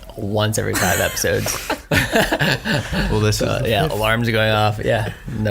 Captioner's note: all laugh